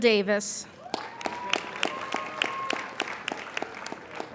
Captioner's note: appladuing